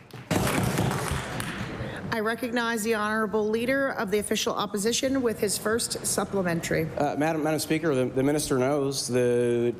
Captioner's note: applause